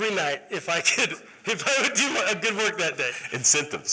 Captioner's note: laughter